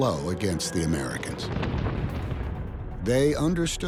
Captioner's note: explosion booming